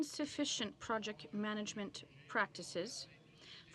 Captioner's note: speaking in french